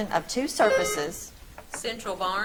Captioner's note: buzzer trills